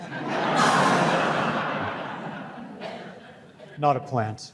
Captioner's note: audience laughs